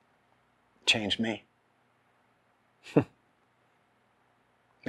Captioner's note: chuckling